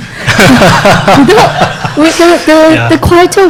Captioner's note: laughing